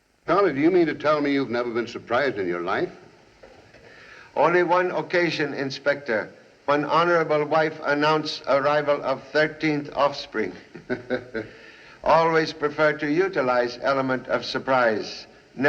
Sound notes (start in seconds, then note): 10.4 chuckles